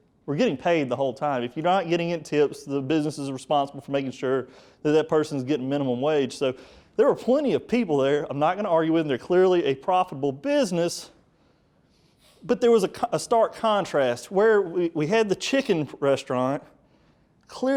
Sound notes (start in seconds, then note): none